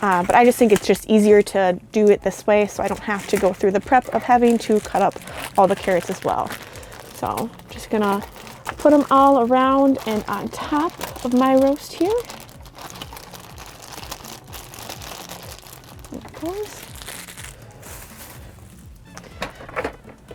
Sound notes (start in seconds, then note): 12.9 bag crinkling; 17.3 soft jazz music